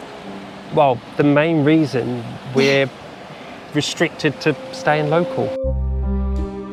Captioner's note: laughter